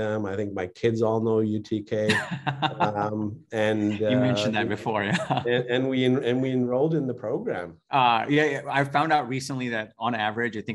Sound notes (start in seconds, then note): 1.7 laughing; 5.4 chuckling